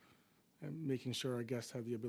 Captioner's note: speaking French